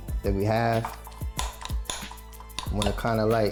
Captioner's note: glass clinks